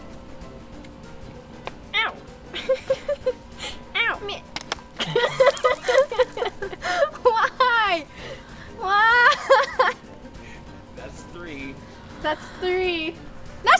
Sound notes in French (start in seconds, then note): 5.0 rires